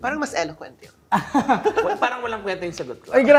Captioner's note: chuckles